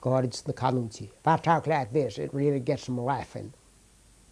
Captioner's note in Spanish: habla en un dialecto rural del suroeste americano